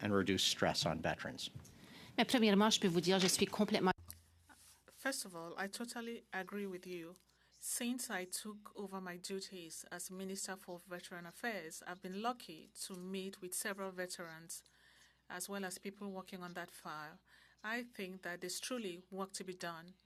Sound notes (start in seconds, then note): 7.3 speaking French